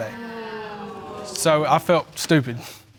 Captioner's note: audience exclaiming